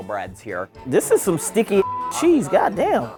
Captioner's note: beep